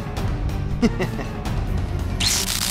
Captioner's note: laughs